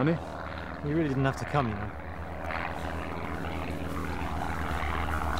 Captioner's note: aircraft engine rattling